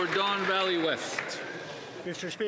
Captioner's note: applause